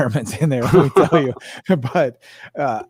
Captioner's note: laughing